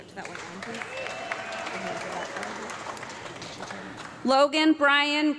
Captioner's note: audience clapping